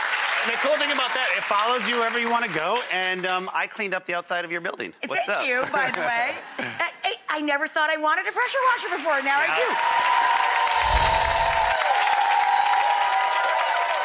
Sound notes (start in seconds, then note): 8.6 cheers and applause; 10.8 ethereal music